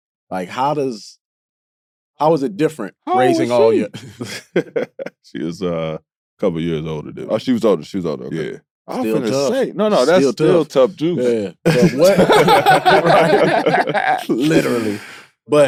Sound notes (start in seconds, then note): 3.1 Caron laughs; 9.9 group laughing